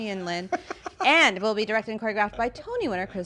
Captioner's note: laughing